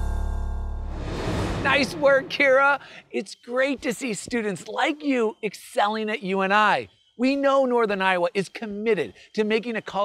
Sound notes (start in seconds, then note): 0.9 graphics whooshing